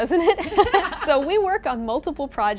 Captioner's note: both laughing